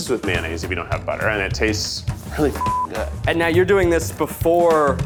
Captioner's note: beep